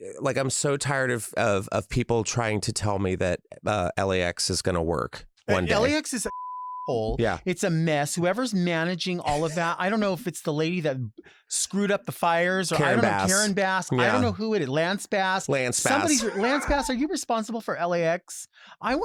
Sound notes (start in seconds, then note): 6.2 beep